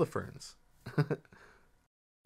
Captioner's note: laughs